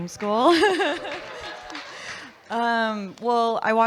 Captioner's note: audience clapping and laughing